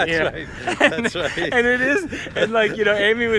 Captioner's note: both laughing